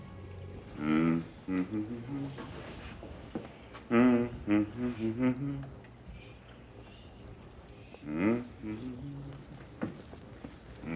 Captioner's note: Dr. Julian humming